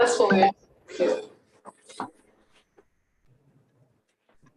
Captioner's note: indistinct conversation